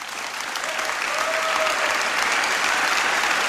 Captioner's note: applause